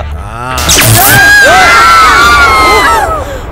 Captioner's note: Screams